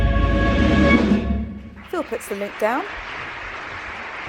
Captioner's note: applause